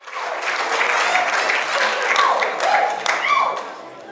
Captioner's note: audience applauds